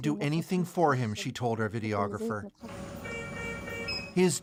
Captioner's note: speaking alternate language